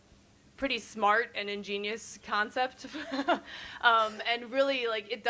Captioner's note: laughs